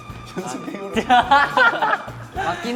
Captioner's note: just laughing at the desperate excuse